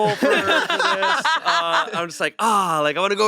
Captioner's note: they laugh